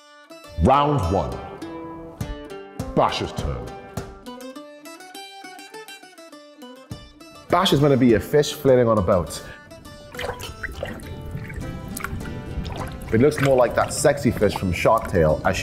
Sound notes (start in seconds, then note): 10.0 splashing